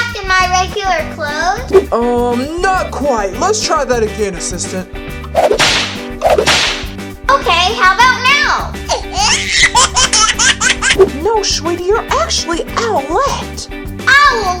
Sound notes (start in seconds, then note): 5.3 whip slapping sound